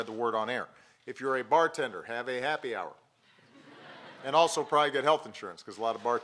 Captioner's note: laughter